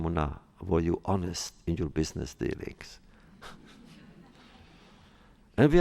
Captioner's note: laughs